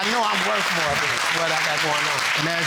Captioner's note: audience applauding